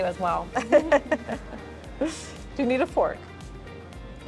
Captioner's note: laughs